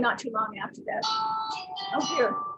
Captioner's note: phone rings